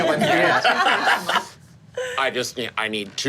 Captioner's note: group laughing